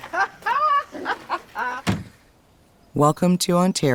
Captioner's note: client laughs